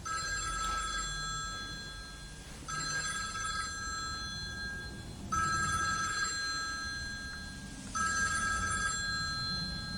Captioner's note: the phone is ringing